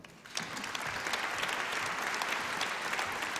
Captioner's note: applause